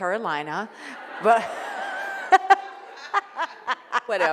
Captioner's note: laughing